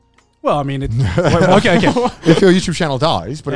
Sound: co-hosts laugh

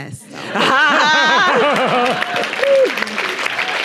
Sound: Nadine laughing; everyone laughing; audience applauding

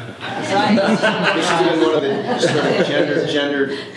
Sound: laughter

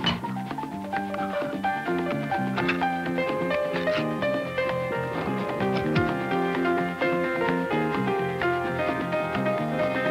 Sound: can opening, metal twisting

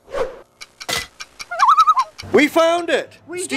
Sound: loon call

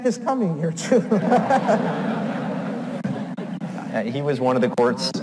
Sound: audience laughs

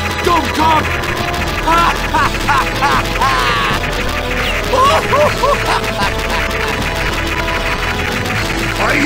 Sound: more medically insane laughter

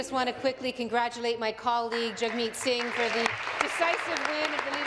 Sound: applause

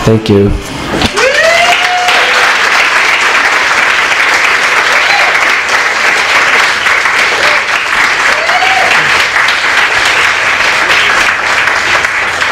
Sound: applause

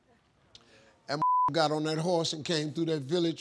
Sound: beep

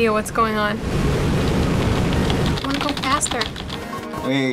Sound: tapping key rapidly

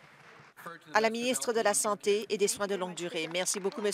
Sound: applause

